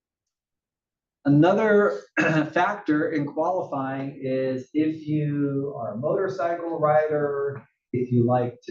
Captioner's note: cough